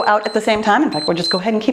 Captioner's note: timer beeps